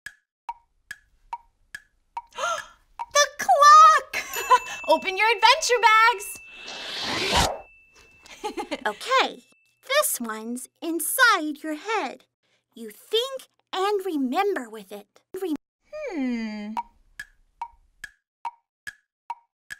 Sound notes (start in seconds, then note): 2.4 gasps; 4.2 giggles; 8.3 giggles; 17.6 clock ticking